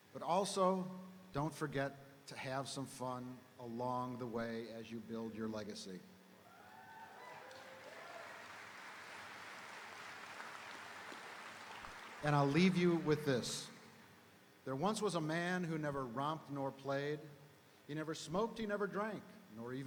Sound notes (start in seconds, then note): 6.4 audience cheering; 7.1 audience applauding